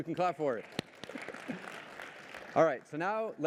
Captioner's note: applause